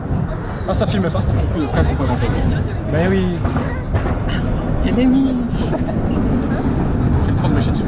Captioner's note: mocking